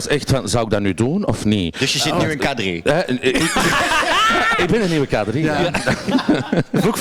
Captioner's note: shrieks